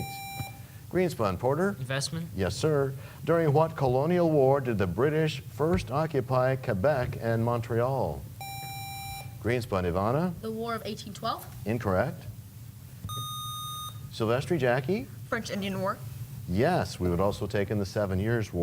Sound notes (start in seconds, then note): none